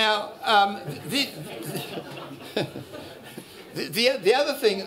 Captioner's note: laughter